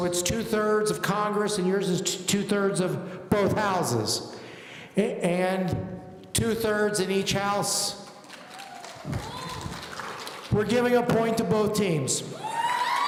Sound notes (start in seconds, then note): 8.1 audience applauding; 12.3 audience cheering